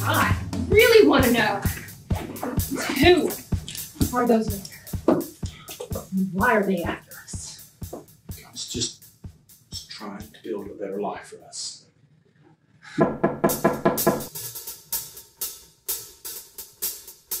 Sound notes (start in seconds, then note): 13.0 knocking on door